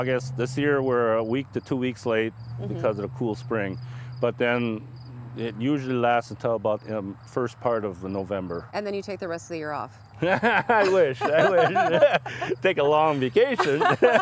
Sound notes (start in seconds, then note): 10.2 laughing